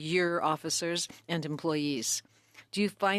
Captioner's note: speaking French